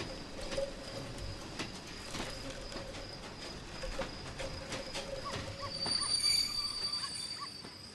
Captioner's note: train passing